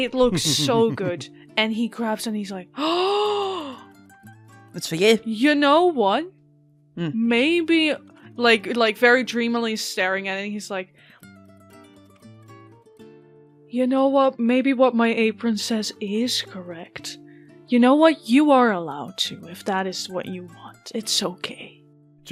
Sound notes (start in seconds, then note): 2.8 gasps